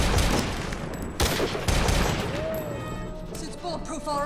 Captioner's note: gunshots banging